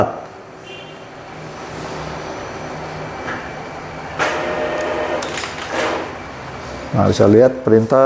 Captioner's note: printer machine noise